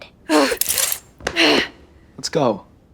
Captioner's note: Enid growling